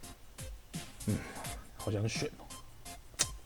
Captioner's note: sigh